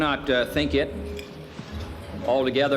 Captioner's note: utensils clinking